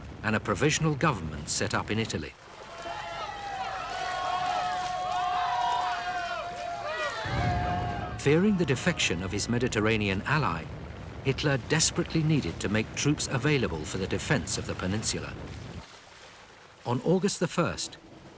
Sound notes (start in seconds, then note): 2.6 crowd wailing; 7.1 tanks rumbling